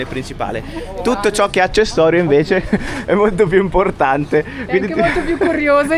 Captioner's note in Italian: risate